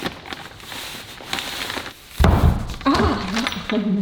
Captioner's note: plastic crinkling; roll of paper thumping